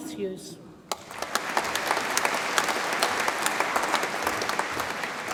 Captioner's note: audience applauds